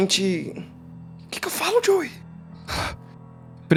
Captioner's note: sighs